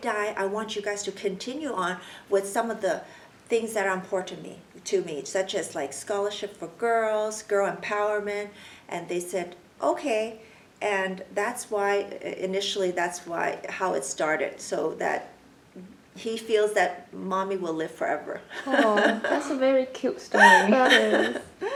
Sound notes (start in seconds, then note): 18.6 laughs